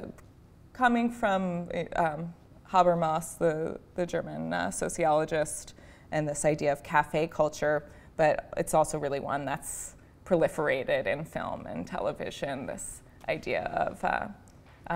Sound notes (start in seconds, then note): none